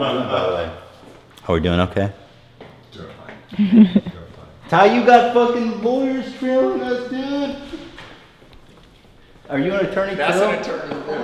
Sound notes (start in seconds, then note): 3.5 laughs